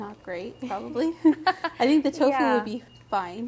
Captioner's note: laughing